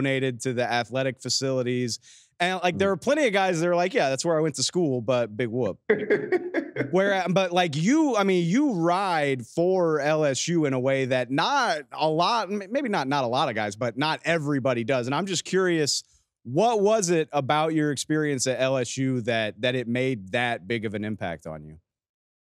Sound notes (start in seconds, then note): 6.0 laughs